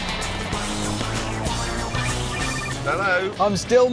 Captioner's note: phone rings